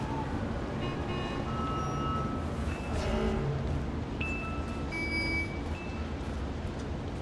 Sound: cars honking

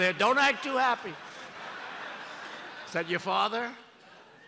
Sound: laughter

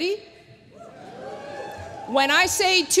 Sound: cheering

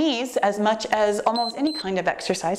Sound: timer beeps

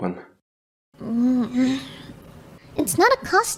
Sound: angry cat

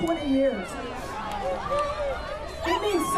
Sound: cheers

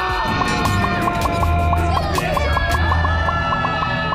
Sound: ahhhhh

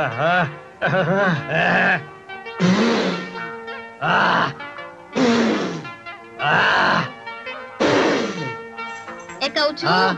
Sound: blows Air

